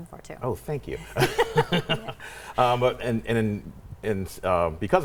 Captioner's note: laughing